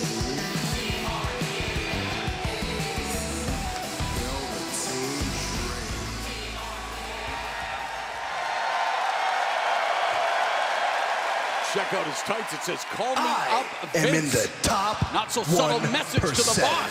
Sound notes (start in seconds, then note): 9.9 cheers and applause